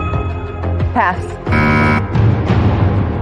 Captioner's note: buzzer sounds